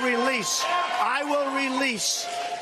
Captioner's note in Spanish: aplausos